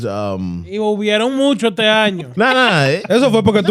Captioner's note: speaking Spanish